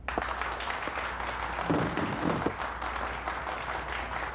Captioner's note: <i> applause</i>